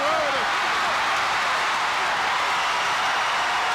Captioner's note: crowd cheers